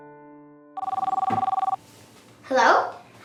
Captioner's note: telephone ring